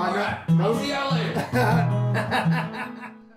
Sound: laughs

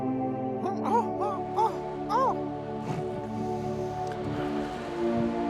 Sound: רופרט נוהם בהפתעה

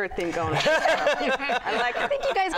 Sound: laughter

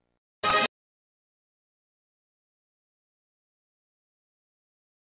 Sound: silence continuing

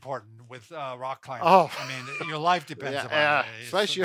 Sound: laughs

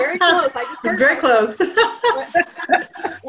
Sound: laughing

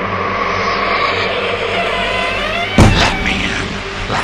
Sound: bangs on door as it creaks open

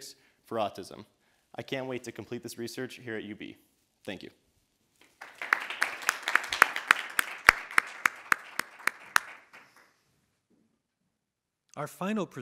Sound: audience applauding

